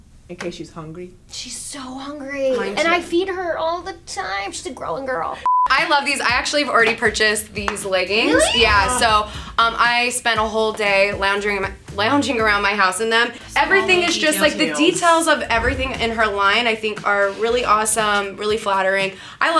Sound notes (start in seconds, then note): 5.4 beeping sound